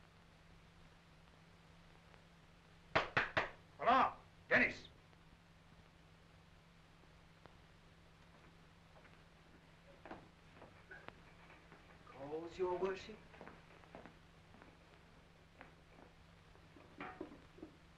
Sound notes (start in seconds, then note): 3.2 knocking